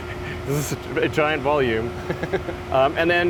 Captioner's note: chuckles